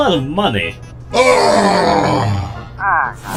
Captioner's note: robotic Groan